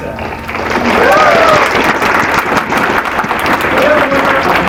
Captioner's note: applause